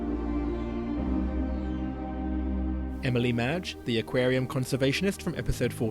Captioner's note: voiceover